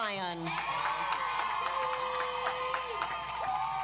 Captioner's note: audience applauds